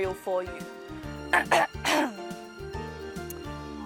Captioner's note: clears throat